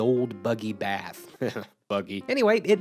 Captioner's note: giggles